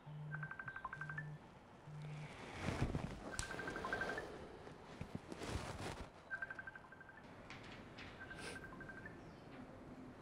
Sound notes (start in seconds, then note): 0.2 phone ring